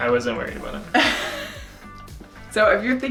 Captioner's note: laughing